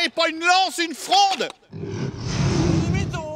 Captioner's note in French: Cri du dragon